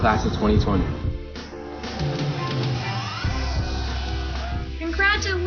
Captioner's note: crowd applause